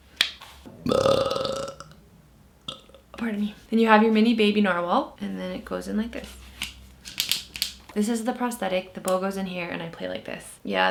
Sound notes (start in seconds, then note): 0.7 belches; 7.4 clicks